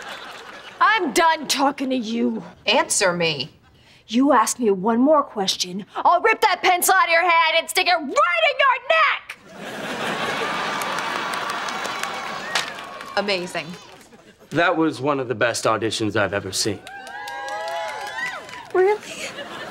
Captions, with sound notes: I'm done talking to you. Answer me. You ask me one more question, I'll rip that pencil outta your hand and stick it right in your neck! [applauding, cheering] Amazing. That was one of the best auditions I've ever seen. Really?